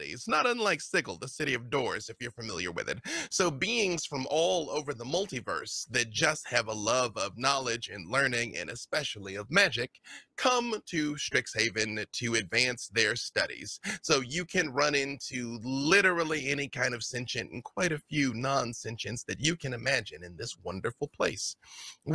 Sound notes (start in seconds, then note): none